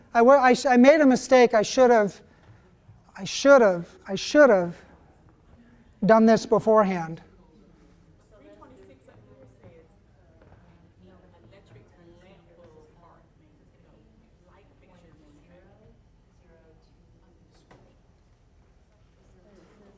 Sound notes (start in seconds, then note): 7.3 people chattering